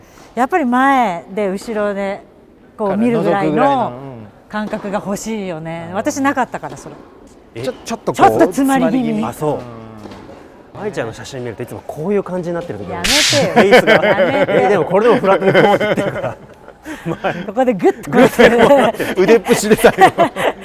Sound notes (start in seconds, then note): 15.1 laugh